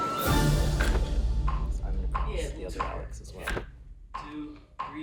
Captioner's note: metronome ticking